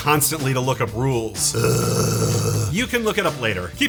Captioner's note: migraine Noises